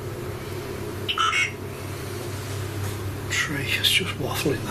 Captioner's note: beeping